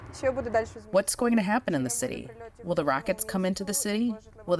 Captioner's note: through translator